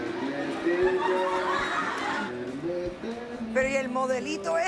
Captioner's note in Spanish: Risas del público